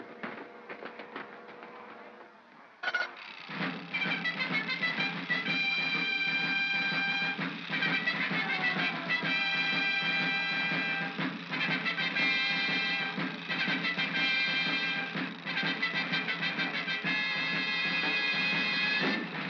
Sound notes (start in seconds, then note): 0.2 feet scrambling; 2.8 gears chattering; 2.9 triumphant music